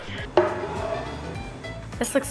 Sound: plate sliding

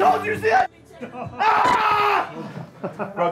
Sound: screams; laughter

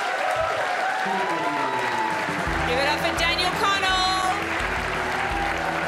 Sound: crowd cheers and applauds

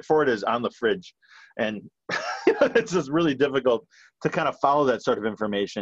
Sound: laughs

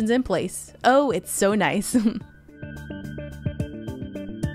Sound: chuckling

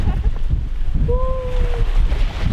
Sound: laughing

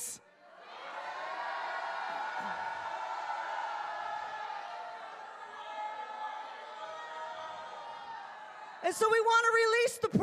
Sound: congregation shouting

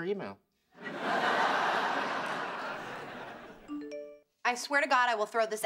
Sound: phone chimes

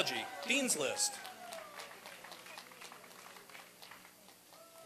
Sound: applause and cheering

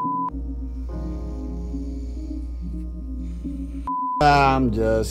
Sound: snores

